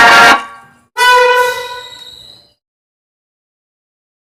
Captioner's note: air Horn